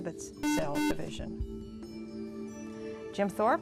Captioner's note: buzzer